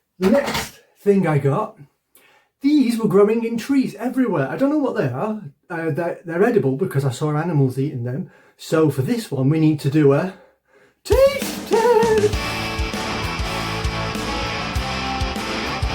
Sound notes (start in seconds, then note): 8.5 silly voice; 12.8 rock music